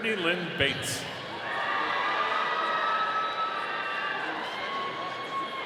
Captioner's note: audience cheering